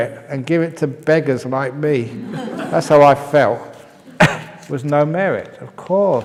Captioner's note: laughs